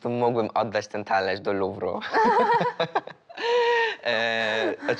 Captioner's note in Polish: śmiech